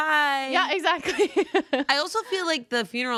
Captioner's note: laughs